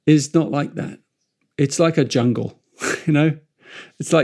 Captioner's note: chuckles